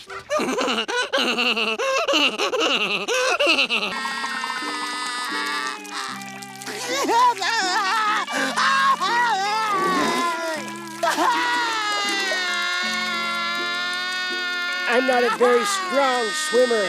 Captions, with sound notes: [laughing] [crying] [crying] I'm not a very strong swimmer.